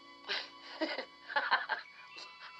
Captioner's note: Lee gülüyor